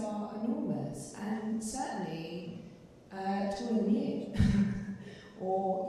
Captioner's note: chuckling